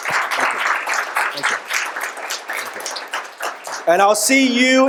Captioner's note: audience applauds